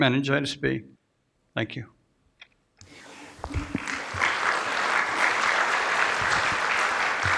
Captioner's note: applause